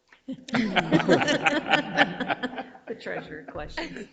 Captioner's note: board members laugh